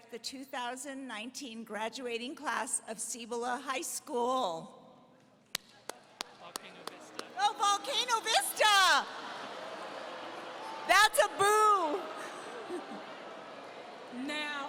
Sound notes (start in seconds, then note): 5.6 audience laughing; 9.1 audience booing; 9.1 audience laughing